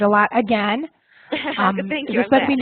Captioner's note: laugh